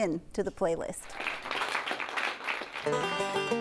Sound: applause

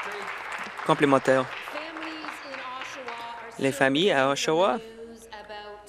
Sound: applause

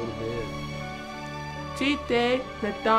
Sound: speaking native language

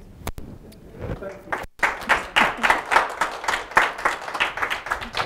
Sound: applause

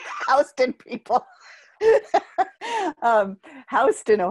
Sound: laughter

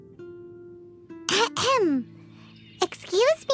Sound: clears throat

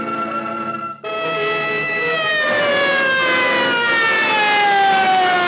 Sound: siren wailing

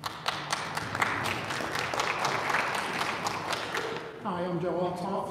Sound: audience applauding

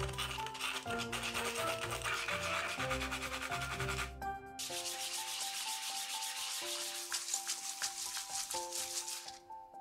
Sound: hissing sound of sanding wood

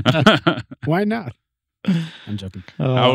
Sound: laughing

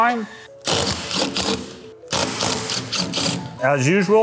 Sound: driver whirring

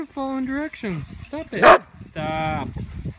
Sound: bark!

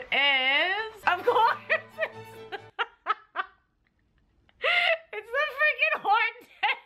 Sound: laughs

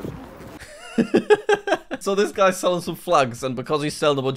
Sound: laughs

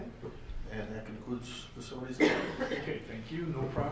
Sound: coughing drowns out the speaker

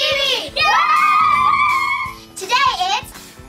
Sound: cheering

